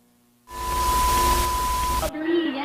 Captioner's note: TV Static